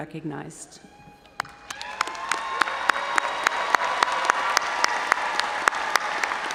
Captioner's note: audience cheering and applauding